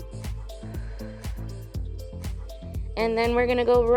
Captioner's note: exhales